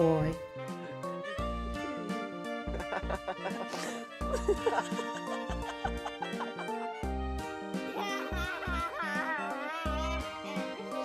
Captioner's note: all of them laugh!